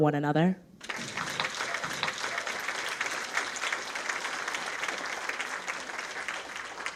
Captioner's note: audience applauds